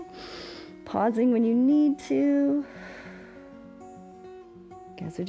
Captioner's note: exhales